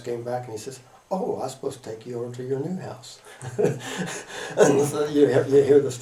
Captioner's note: laughter